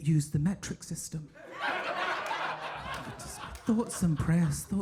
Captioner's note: audience laughing